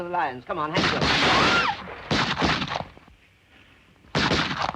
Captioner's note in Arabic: إطلاق نار وتحطيم زجاج; تصرخ مارغريت; طلقات نارية